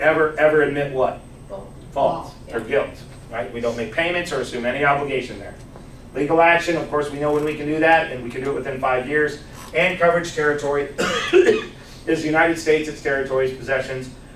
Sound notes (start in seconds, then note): 6.5 coughs